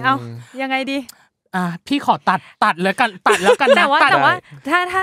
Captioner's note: laugh